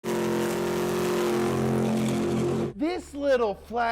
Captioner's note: engine revving